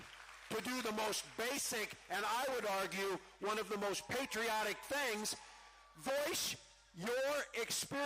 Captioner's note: cheering